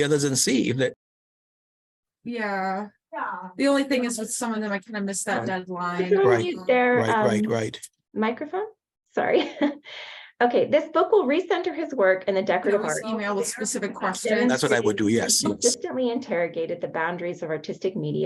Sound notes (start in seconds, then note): 12.6 chatter continues